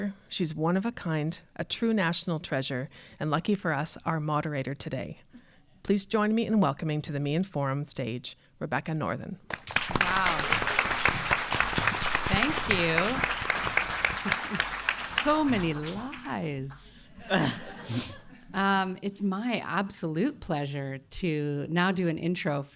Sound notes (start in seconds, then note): 9.4 audience clapping; 17.2 audience laughing